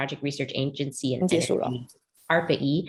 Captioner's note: non-english speech